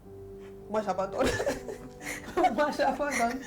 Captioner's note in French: rires